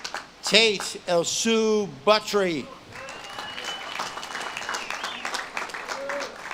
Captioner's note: audience claps and cheers